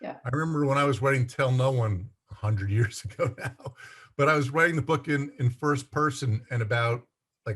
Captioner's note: laughs